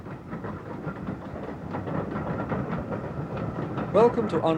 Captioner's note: train passing